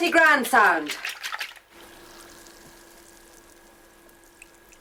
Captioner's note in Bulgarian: СПИРА разбиване на яйца